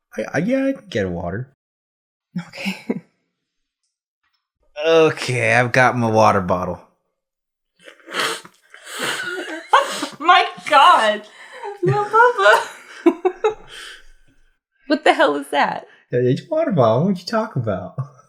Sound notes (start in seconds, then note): 7.8 ungodly slurping